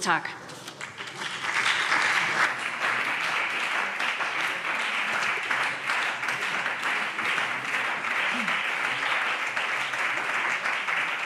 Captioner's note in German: Beifall SPD und BÜNDNIS 90/DIE GRÜNEN